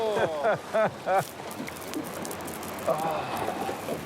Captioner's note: Stephen laughing